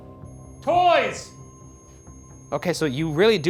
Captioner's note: REM pod beeping